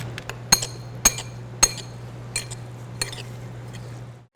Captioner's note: spoon clinking